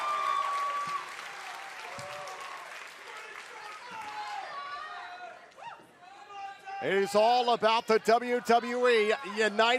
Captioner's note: cheers and applause